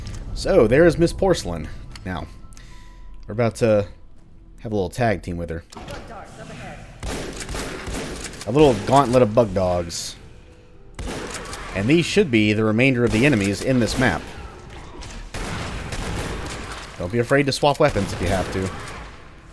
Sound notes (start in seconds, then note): 5.6 door opens; 5.9 porcelain speaking